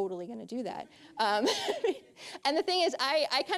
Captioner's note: audience chuckling; laughing